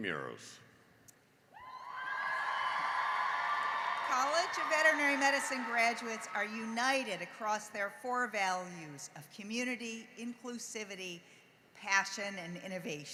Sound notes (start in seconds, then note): 1.6 cheering and applause